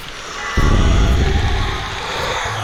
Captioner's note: monster sound